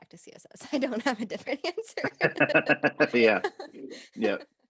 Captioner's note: both laughing